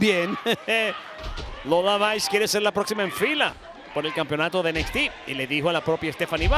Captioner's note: laugh